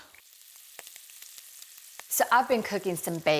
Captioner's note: bacon sizzling